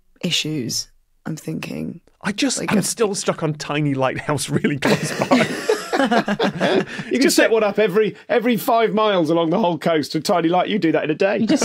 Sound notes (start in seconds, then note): 4.1 group giggling